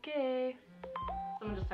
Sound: text alert

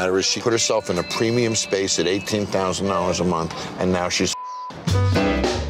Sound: beep

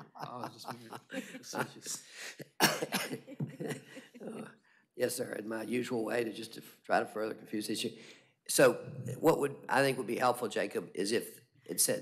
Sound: laughter

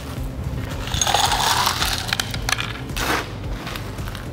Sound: ice tinkles

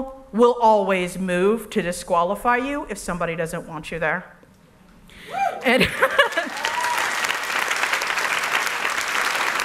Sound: applause

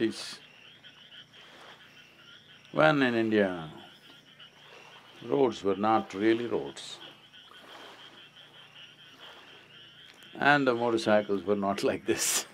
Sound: laughs

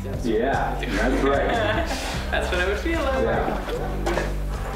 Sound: laughs

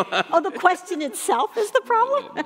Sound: laughing

